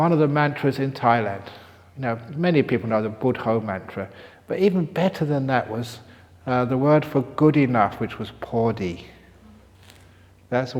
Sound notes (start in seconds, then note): none